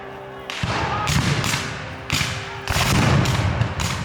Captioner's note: guns fire